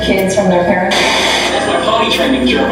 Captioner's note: TV Static